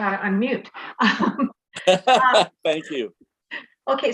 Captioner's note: laughing